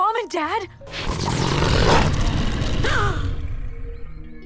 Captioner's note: Mischa growls; Jessa gasps